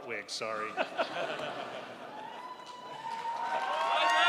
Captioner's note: crowd laughs